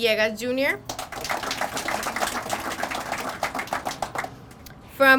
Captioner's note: crowd applauding